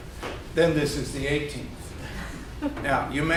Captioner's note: group chuckles